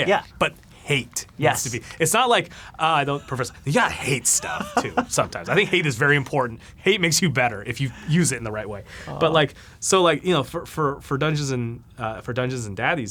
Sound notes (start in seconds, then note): 3.1 laughs